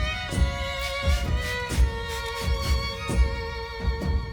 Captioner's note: spray spritzing